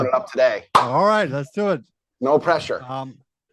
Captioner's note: hands smack